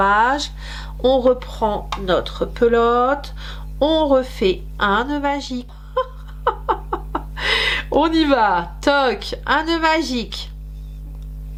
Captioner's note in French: rires